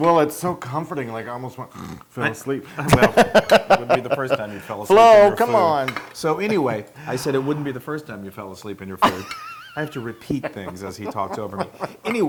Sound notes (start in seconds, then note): 2.8 laugh